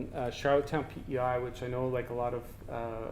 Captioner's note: none